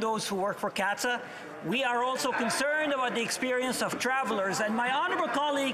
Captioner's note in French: voix de l'interprète